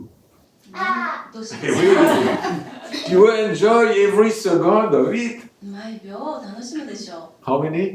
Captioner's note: laugh!